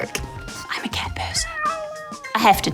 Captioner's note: cat miaows